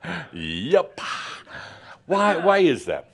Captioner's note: Adamus chuckles